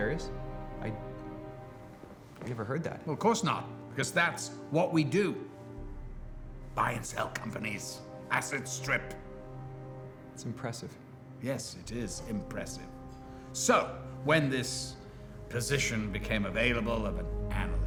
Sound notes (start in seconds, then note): none